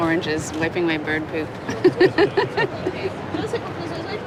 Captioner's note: laughs